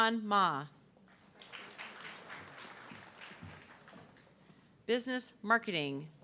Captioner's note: audience clapping